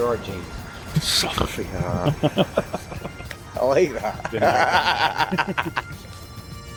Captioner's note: chuckles; big laugh